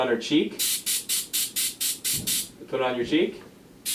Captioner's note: air blowing